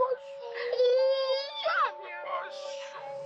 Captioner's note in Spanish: Llanto del bebé